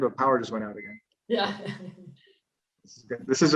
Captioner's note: laughs